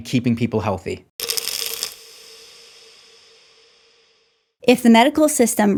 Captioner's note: pills rattling